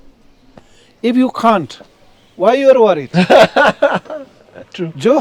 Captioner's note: laughs